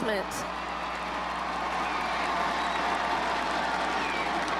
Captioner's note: crowd cheers